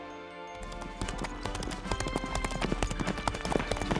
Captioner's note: horse galloping